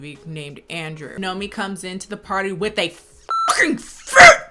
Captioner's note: beep